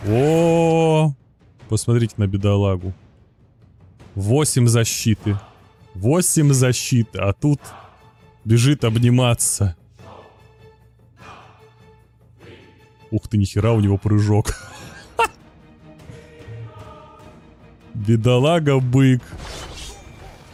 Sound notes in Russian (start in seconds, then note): 17.3 смех